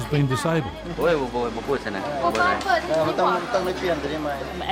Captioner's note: man speaks local language